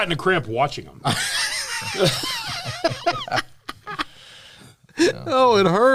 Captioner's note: laughter